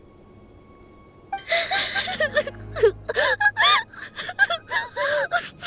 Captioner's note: sobbing